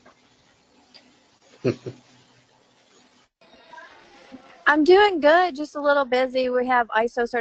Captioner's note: laugh